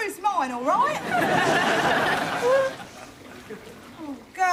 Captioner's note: audience laughing